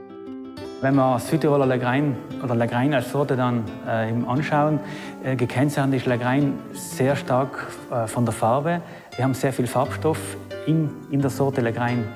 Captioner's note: speaking German